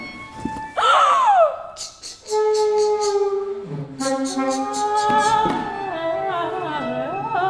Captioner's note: gasps, thumping